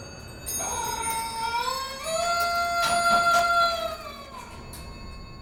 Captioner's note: jingling and peacock sound